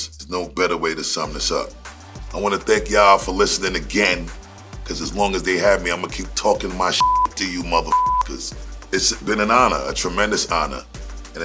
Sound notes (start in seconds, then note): 7.0 beep